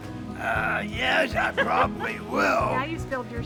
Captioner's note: laughter